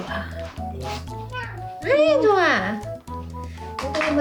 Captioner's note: meow